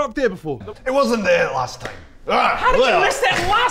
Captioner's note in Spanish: En escocés